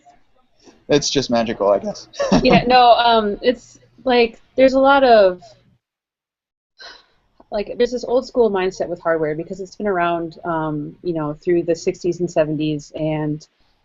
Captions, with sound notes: It's just magical, I guess. (laughs) - No, it's like, There's a lot of... Like, there's this old school mindset with hardware, because it's been around, you know, through the 60s and 70s, and